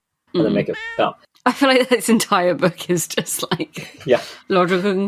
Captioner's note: laughing